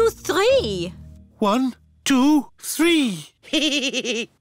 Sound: giggles

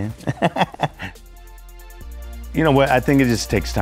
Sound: laughs

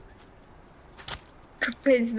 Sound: smack

